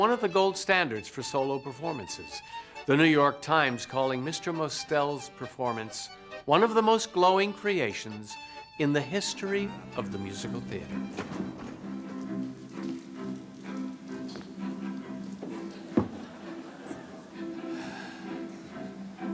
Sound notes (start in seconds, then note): 15.4 audience laughs; 17.5 sighs